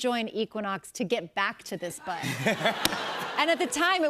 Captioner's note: laughter